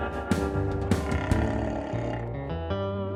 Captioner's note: stomach growling